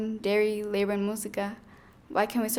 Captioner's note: speaking in foreign language